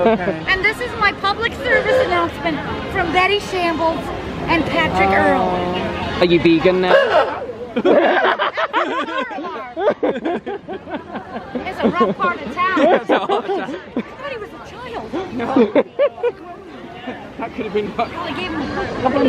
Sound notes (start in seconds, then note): 7.2 honks horn; 8.0 laugh